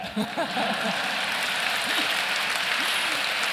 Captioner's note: applause